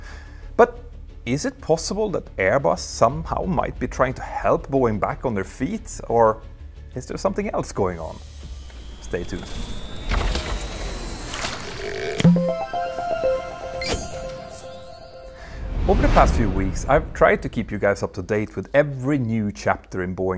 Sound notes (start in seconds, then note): 12.2 playful chime